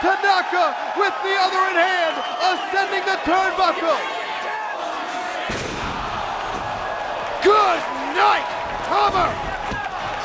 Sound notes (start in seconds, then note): 5.6 chair thudding